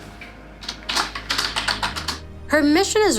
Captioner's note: sound of typing on keyboard